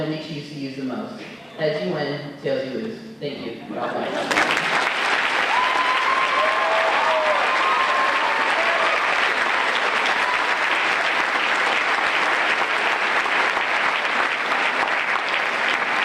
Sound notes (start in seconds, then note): 4.2 applause